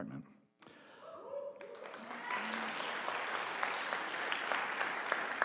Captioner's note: audience applauding